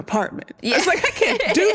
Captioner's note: laughs